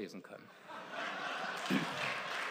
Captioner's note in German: Lachen; Beifall